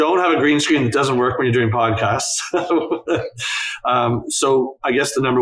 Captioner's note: laughs